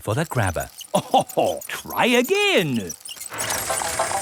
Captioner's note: chuckles